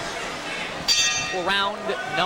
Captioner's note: bell rings